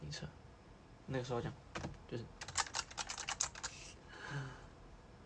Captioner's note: aggressive clickity clacking